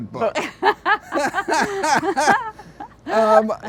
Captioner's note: both laughing